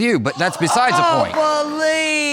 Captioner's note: audience gasps